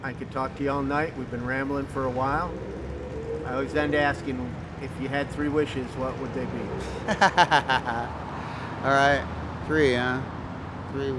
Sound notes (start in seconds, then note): 6.6 laughs